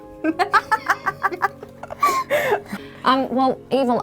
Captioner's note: laughing